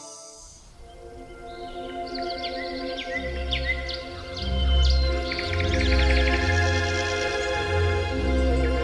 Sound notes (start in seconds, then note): 0.0 birds chirp; 0.0 peaceful orchestral music